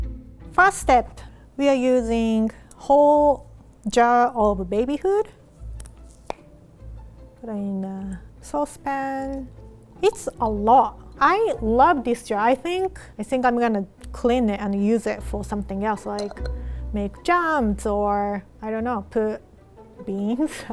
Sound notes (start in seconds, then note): 6.2 safety seal popping